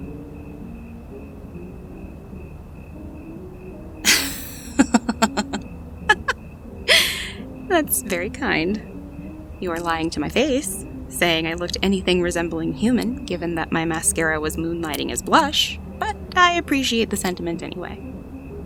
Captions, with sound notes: [laughs] That’s very kind. You’re lying to my face saying I looked anything resembling "human" given that my mascara was moonlighting as blush, but I appreciate the sentiment anyway.